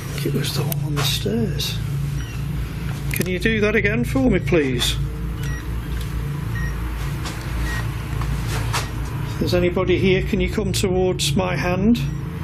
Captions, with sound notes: on the stairs. Can you do that again for me please? (beeping) If there's anybody here can you come towards my hand.